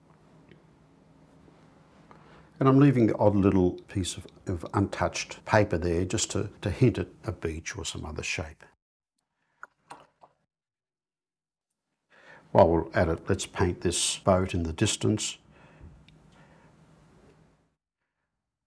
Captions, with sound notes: I'm leaving the odd little piece of untouched paper there just to hint at a beach or some other shape. [silence] While we're at it, let's paint this boat in the distance. [silence]